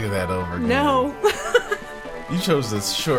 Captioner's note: laughs